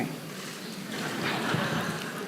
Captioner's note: laughter